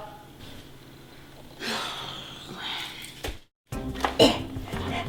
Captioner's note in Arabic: تنهد